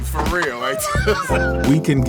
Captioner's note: laughing